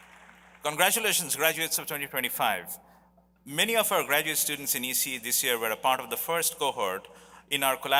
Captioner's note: applause